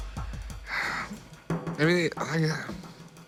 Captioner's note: sigh